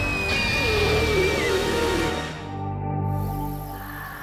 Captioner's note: screams